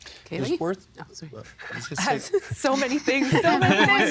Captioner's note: laughing